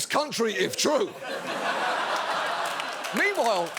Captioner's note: audience laughs, applauds